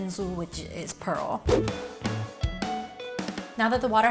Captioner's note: air whooshing